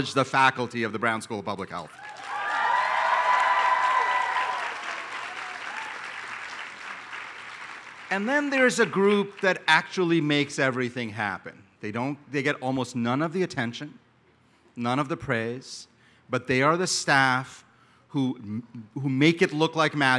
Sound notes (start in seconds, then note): 1.9 applause